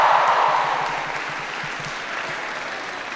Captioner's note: applause